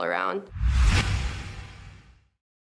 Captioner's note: whoosh